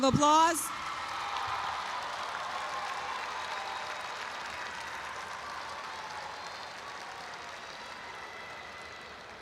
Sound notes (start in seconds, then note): 0.6 audience applauds and cheers